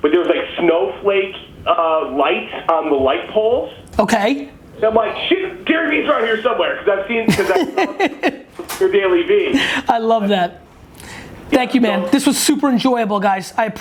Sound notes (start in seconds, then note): 7.2 laughs